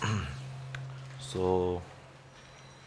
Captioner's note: clears throat